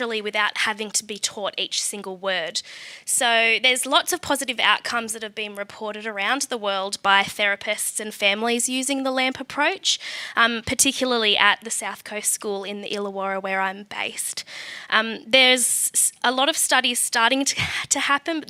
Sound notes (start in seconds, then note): none